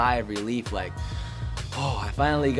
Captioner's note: sighs